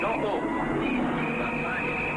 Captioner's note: whistling